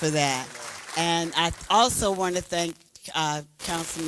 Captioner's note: applause